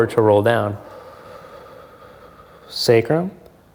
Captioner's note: exhales softly